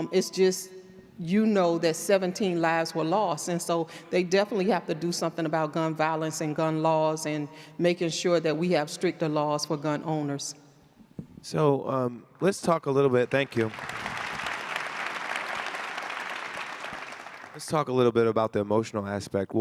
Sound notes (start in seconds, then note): 13.1 audience clapping